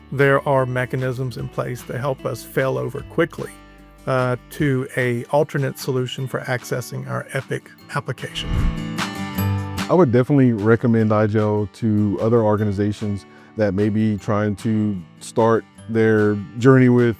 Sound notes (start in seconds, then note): 8.3 transition whooshing